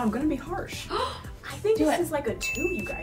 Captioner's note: gasps